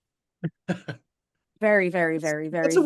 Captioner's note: laughing